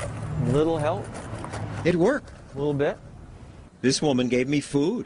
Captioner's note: rattles coin cup